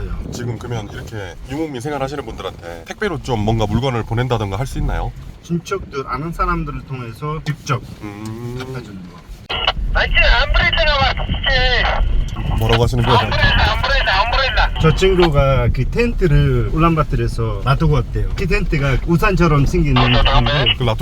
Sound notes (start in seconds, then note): 9.4 radio coming through suddenly